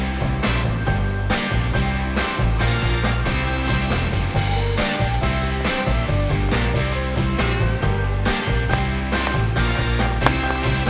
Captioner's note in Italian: Applauso